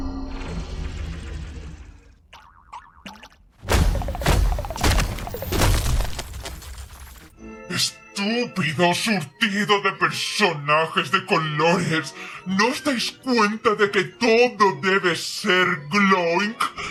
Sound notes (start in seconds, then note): 2.1 Gloink boinking softly